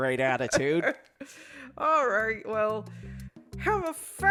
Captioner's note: laughs